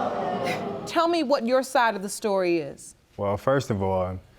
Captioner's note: chuckles